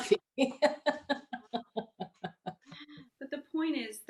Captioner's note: laughing